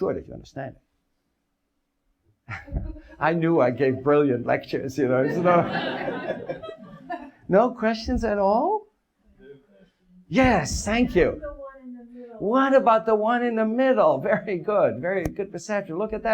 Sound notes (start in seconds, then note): 5.2 audience laughs